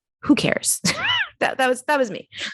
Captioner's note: giggles